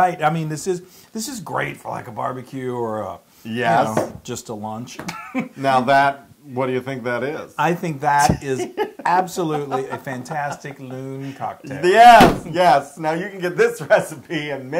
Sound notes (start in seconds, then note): 5.0 laugh